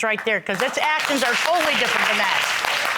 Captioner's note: audience applauding